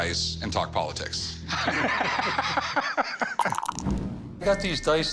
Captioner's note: laughter